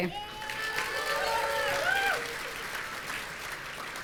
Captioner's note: audience cheering